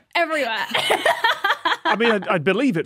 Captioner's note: laughs heartily